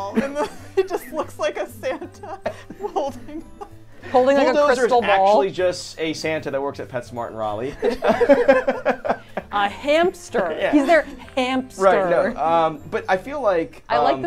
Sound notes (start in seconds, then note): 1.8 laughing; 7.8 both laughing